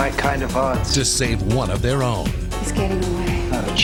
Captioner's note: voiceover